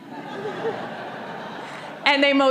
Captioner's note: audience laughing